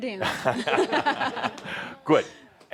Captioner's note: laughter